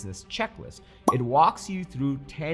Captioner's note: checklist pops